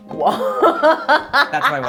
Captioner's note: laughs